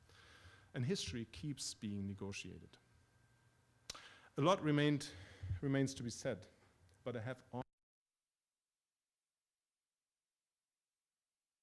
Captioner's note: audio cuts out